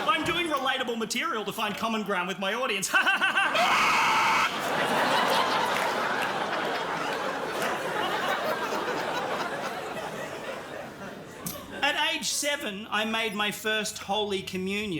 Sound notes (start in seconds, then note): 3.5 shrieks